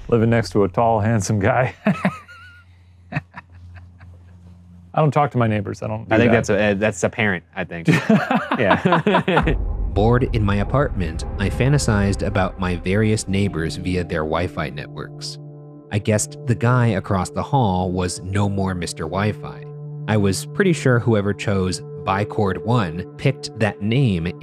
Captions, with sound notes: - Living next to a tall, handsome guy. (laughing) I don't talk to my neighbors; I don't do that. - That's apparent, I think. Yeah. (both laughing) Bored in my apartment, I fantasized about my various neighbors via their wifi networks. I guessed the guy across the hall was "No More Mister Wifi." I was pretty sure whoever chose "ByeCord1" picked that name